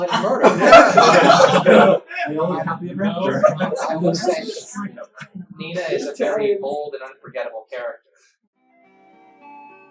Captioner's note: laughter, unintelligible speech